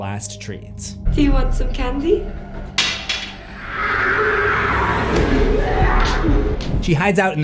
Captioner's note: growling